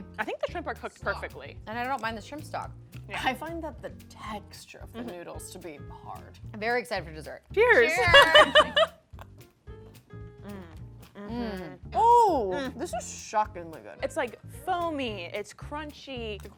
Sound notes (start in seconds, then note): 7.9 laughs; 11.2 delighted moans